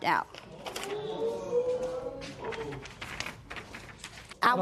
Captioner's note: spectators murmur